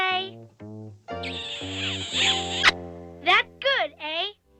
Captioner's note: sloppy kiss sound